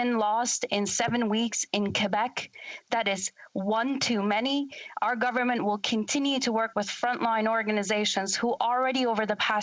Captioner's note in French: voix de l'interprète